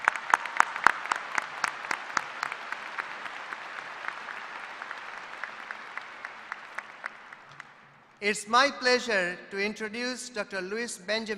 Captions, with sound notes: >> PLEASE JOIN ME IN RECOGNIZING THE HEADS OF OUR ACADEMIC DEPARTMENTS. [ APPLAUSE ]